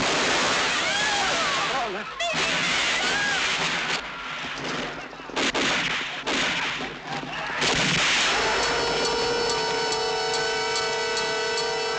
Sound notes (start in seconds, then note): 0.8 speaks in Spanish; 2.0 yelling in Spanish; 8.2 intense suspense music